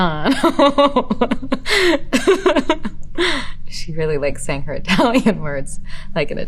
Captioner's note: laughing